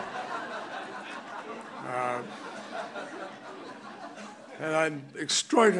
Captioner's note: laughter